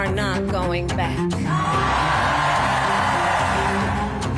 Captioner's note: cheers and applause